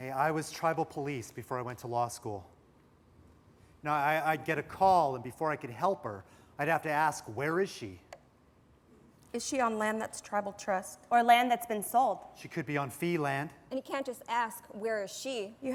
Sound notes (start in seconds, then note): none